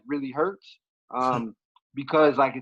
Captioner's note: giggles